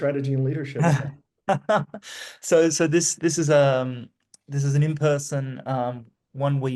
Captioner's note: laughs